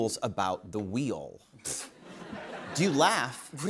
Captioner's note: laughter